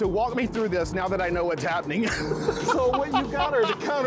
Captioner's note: laughing